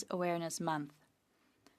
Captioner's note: speaking French